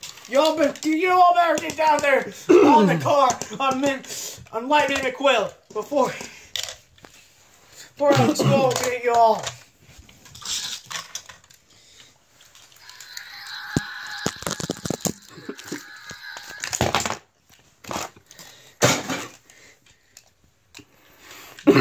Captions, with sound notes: You all better get down here, on the car-I mean, on Lightning McQuill, before I disqualify you all. (Screaming)